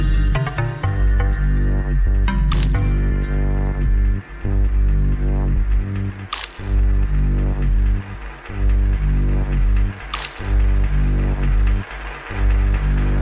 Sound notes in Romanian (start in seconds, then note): 10.0 Aplauze